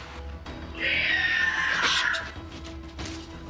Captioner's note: screeching